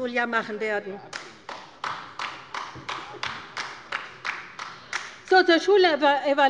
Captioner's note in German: Beifall bei der LINKEN